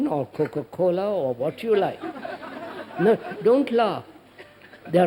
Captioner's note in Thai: หัวเราะ